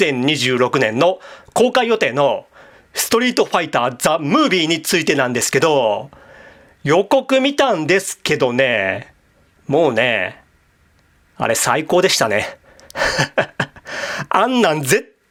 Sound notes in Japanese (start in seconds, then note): 12.8 笑い